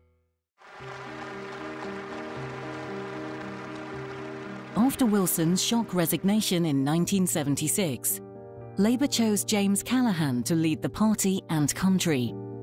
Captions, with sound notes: (soft music) (audience applauding) After Wilson's shock resignation in 1976, Labour chose James Callahan to lead the party and country.